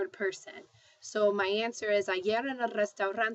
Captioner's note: speaking spanish